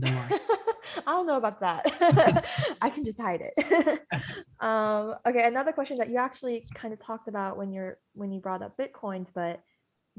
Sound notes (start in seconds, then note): 1.9 laughing; 4.4 laughing